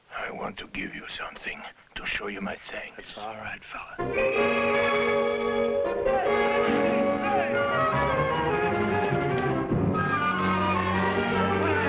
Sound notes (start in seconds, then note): 4.1 whistles blowing; 6.4 officers shouting in foreign language